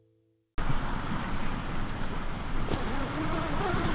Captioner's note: wind blowing; zipping sounds